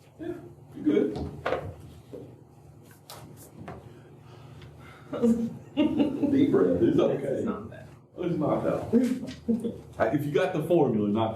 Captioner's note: laughter